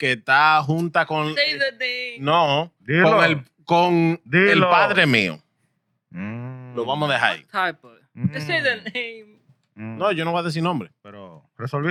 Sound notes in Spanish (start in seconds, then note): 2.9 Hablando en idioma extranjero; 11.1 Hablando en idioma extranjero; 11.1 Riendo